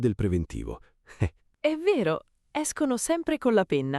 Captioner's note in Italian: Haha